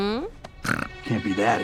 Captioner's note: snorts